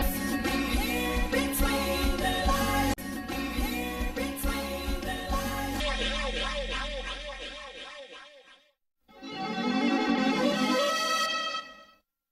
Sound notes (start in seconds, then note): 7.1 echoing; 9.1 synth music playing